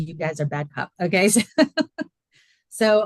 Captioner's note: laughing